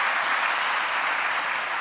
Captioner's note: applause